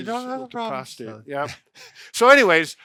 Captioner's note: speaking in a high voice